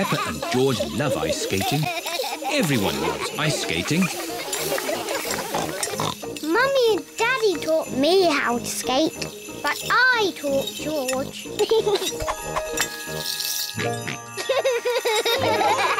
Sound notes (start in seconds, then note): 5.0 snorts; 11.5 giggles; 13.8 snorts and giggles